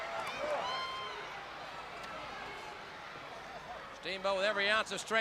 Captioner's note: crowd chatter